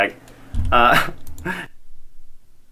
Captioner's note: laughs